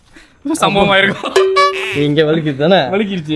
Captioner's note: laughter